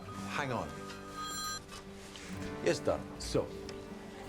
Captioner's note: phone ringing